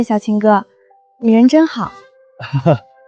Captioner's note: cough